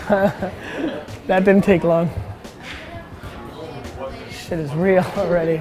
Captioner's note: laughs